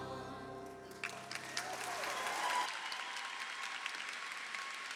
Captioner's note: crowd applauds